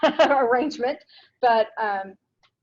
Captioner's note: laughs